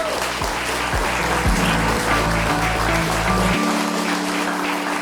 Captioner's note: people clapping; soft music